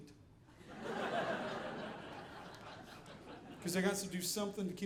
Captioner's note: audience laughing